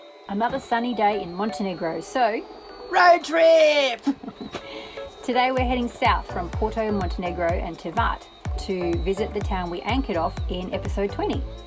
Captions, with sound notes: Another sunny day in Montenegro so… ROAD TRIP [giggle] Today we are heading south from Porto Montenegro and Tivat to visit the town we anchored off in episode 20